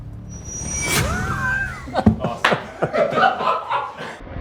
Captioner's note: both laugh